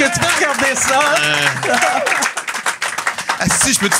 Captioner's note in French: applaudissements